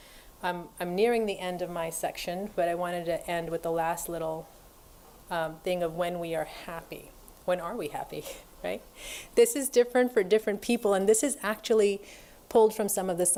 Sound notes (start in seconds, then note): none